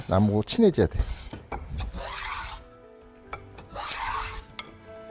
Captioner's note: planing sound